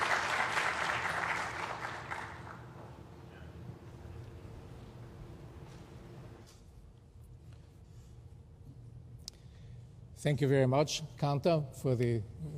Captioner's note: applause